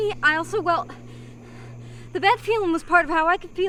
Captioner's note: panting